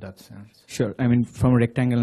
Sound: voiceover

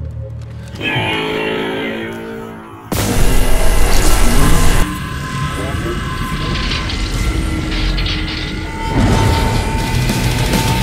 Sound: energy sounds; rock Music

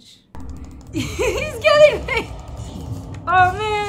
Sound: laughing

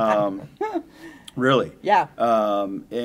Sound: laughter

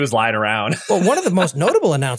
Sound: laugh

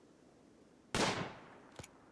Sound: gunshot

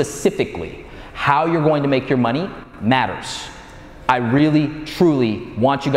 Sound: none

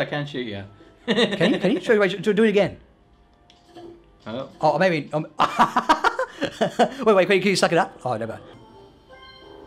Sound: laughs; laughter

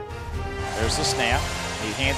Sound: voiceover

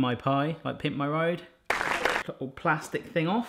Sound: applauding

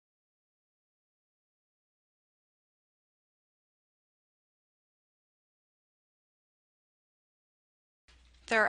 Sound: silence

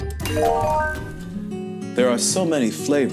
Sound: peaceful music; phone chimes

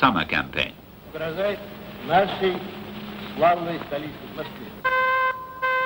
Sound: speaking in foreign language

